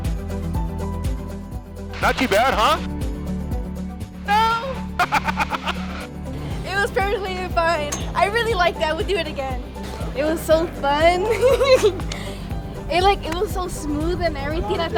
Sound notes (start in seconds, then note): 4.3 laughs; 11.2 laughs